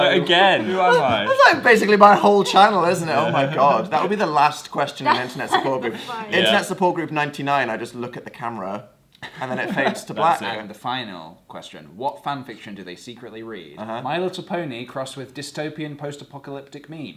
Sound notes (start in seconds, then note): 4.8 laughs